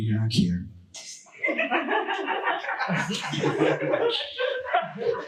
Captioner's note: audience laughing